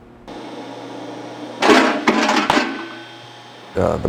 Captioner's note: bang